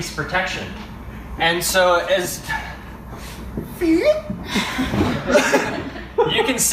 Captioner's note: everyone laughs